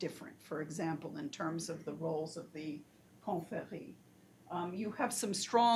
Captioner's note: foreign language